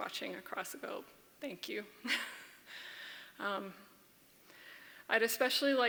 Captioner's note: laughs